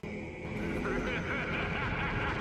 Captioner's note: robotnik laughing